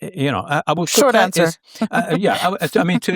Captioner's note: chuckling